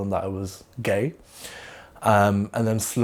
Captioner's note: inhales